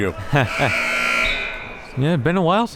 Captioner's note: siren blaring